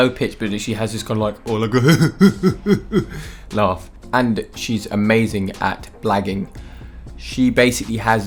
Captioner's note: mimics laugh